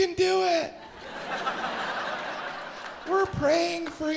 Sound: audience laughs

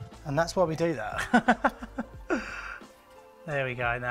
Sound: chuckles

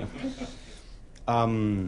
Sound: laughter

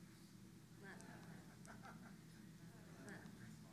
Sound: laugh

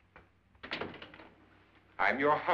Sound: door closes

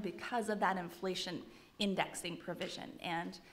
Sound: none

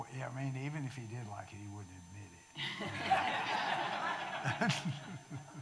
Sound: audience laughing

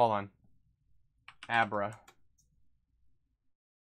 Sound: keyboard clicking

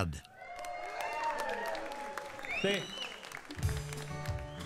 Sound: audience cheering; smooth bluegrass music

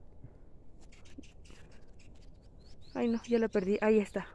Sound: angry hummingbird threats

